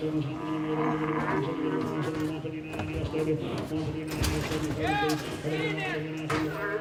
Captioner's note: cows lowing; ranchers shouting